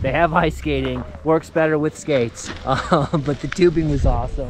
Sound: chuckles

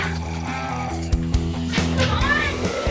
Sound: zombie snarl

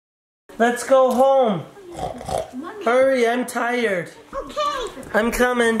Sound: oinking

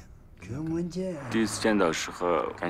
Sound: speaking Tibetan

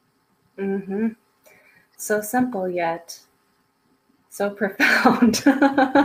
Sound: laughs

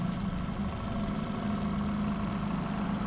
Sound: boat engine idling

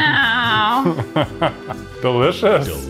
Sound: laughs

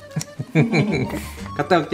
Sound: laugh

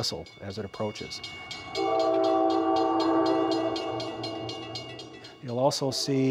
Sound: train whistles, bells ring

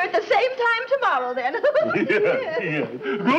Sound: giggles

